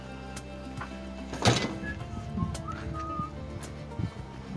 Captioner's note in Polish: pogwizduje